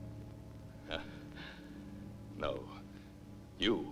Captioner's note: laughs